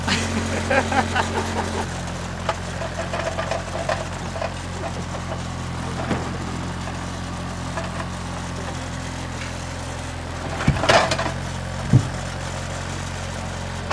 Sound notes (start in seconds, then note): 0.0 laughs; 4.7 vehicle whirring